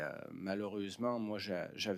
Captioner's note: speaking French